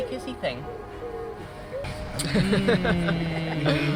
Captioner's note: mockingly makes a kissing sould